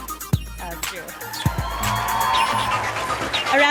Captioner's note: sound of applause and cheering from the audience